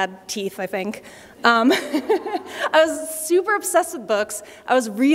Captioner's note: laughter